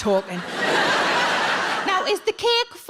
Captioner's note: audience laughs